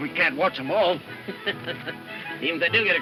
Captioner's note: laughs